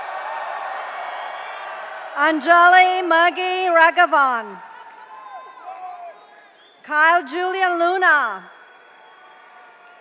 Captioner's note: cheers and applause